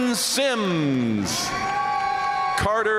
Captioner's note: audience cheering and applauding